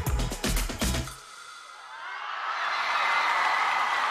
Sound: screams and Applause

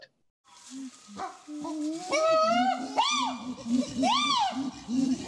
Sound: chimpanzees hooting

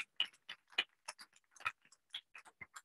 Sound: applause

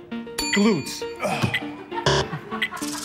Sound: bell dings; buzzer

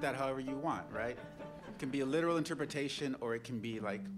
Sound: laughter

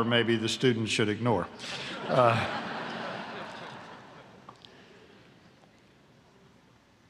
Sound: laughter

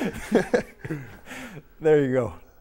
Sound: laughing

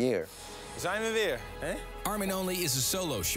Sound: speaks in foreign language

